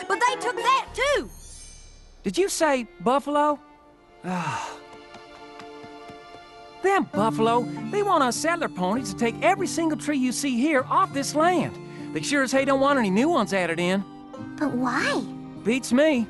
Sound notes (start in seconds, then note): 4.2 sighs